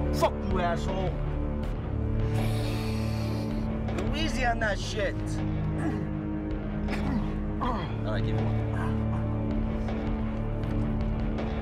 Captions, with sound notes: - Fuck you, asshole! (snorting) Go easy on that shit! Alright give me one.